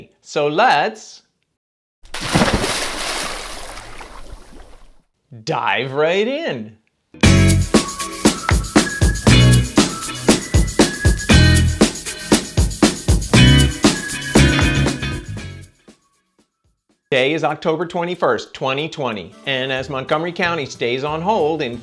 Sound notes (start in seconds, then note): 2.0 water splashes; 7.2 bright upbeat music